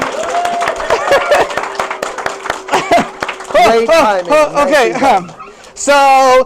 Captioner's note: applause